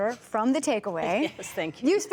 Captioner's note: laughter